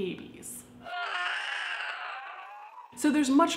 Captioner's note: screeching